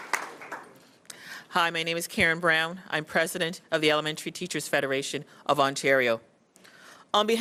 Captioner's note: cheers & Applause